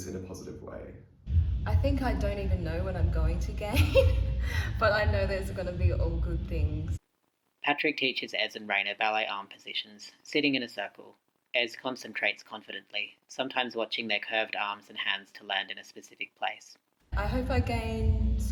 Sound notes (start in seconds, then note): 3.7 laughs